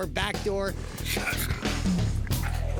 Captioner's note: raccoon snarling